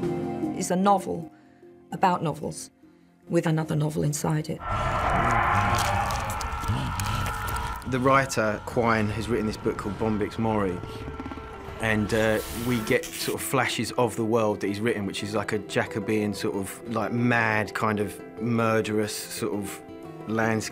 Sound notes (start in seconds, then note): 4.6 sinister music playing; 4.6 screaming